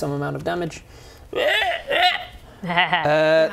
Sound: laughs; painful ribbets

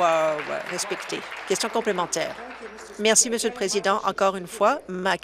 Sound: applause

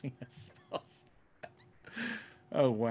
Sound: laughs

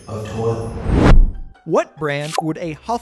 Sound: graphic whooshes

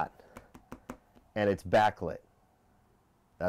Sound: taps table

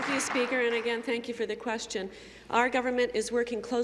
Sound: applause

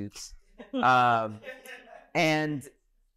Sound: audience laughing

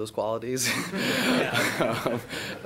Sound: laughing

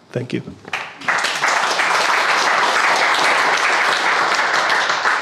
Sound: crowd applauding

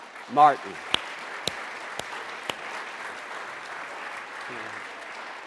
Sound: audience applauding

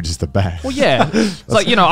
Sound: laughing

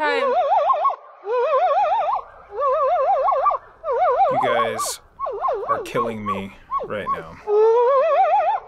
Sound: high pitched howling

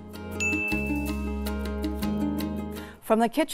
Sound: bell dings

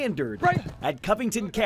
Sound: sounds of football practice

